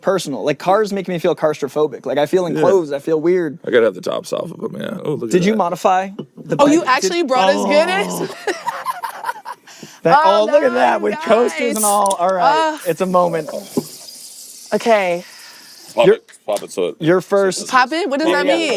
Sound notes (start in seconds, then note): 7.3 laughing